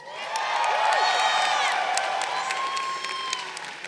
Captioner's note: crowd cheering